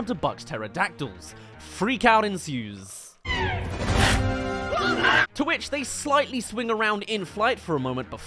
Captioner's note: reveal* Whoa! *Snarls